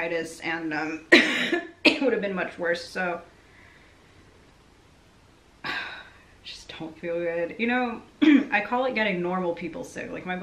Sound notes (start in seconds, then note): 5.6 sighing